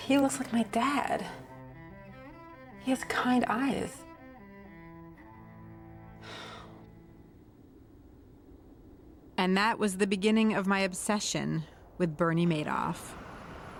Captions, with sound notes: He looks like my dad. He has kind eyes. (sighs) And that was the beginning of my obsession with Bernie Madoff.